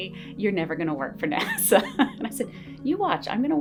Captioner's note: laughs